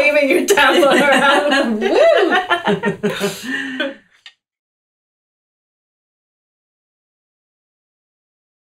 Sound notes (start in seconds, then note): 0.5 group laughter